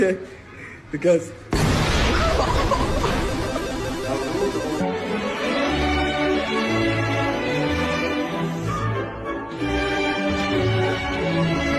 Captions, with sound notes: Okay, because-- (exploding) (laughing) (upbeat music)